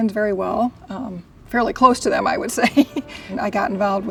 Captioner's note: laughs